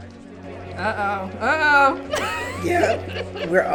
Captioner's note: laughs